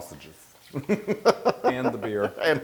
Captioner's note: laugh